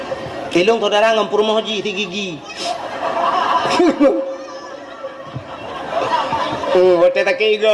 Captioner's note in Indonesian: tertawa